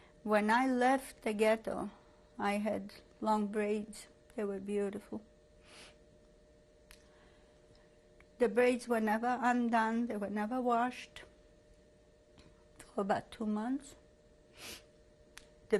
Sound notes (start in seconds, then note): 4.9 pauses for 3 seconds